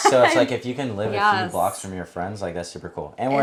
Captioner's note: chuckling